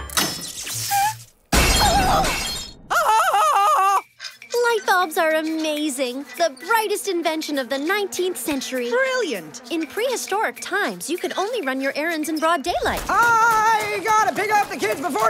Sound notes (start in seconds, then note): 1.4 screaming